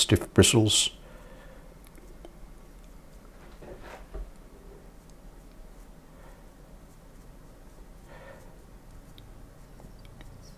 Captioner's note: silence